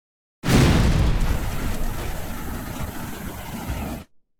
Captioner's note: loud whoosh